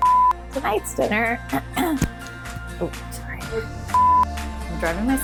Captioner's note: clears throat